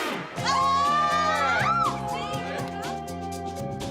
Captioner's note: people cheer